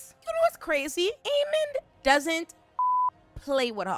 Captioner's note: beep